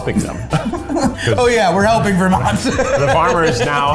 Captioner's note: laughs